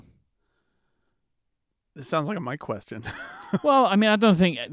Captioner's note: laughs